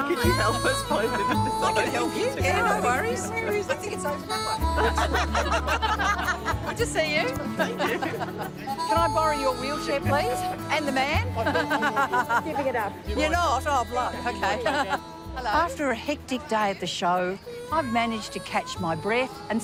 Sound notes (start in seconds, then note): 5.1 women laugh